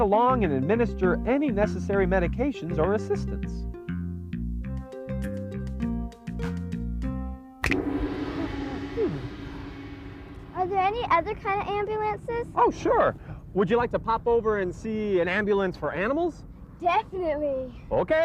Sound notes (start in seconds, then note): 3.9 upbeat music; 7.6 gong; 7.8 finger snaps